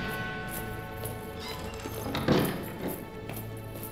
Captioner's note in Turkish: Kapı açılma sesi; Kapı gıcırdama sesi; Kapı kapanma sesi